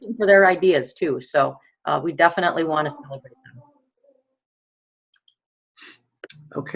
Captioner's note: audio drops out